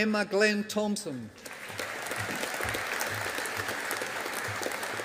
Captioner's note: audience applauding